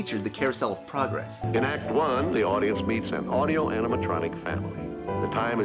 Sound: Walt Narrating

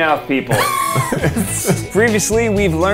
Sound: laughing

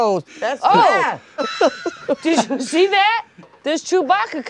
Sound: laughs

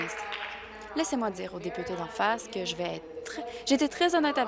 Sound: applause

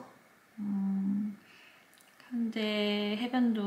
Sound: mmmm

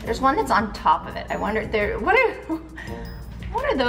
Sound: chuckles

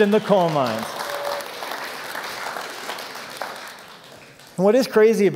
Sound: applause

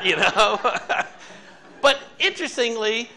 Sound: audience laughing

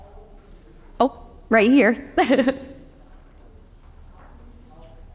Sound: chuckles

